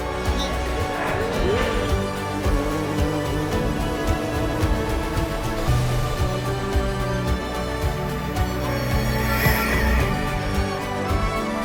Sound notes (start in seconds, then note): 0.0 Lego shuffling can be heard; 2.3 buzzing bee sound can be heard